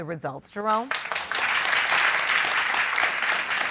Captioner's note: audience applauding